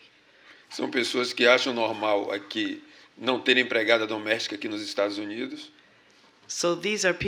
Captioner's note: speaking portuguese